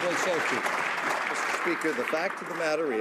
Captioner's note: some Applause